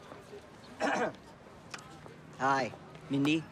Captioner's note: clears throat